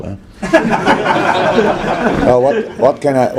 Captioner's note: general laughter